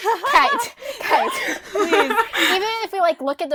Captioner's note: hosts laugh